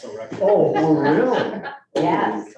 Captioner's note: group laughing